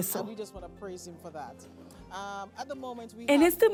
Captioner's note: Hablando idioma extranjero